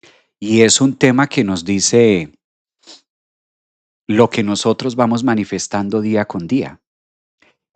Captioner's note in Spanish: resoplido